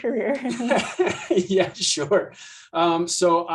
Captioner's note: laughs